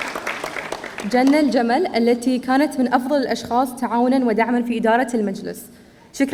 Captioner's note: student speaking in foreign language